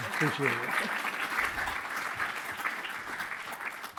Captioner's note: audience applauding